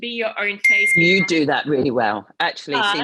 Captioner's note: bell ringing